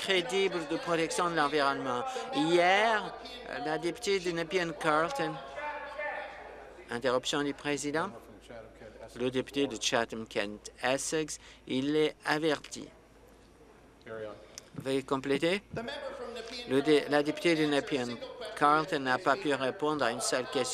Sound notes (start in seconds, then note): 9.9 voice trailing